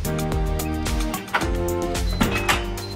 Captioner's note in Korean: 현관문 소리